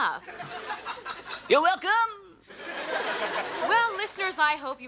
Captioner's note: audience laughs